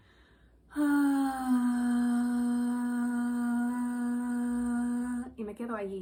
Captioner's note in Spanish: suspiro y tono